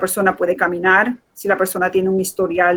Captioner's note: speaking in Foreign Language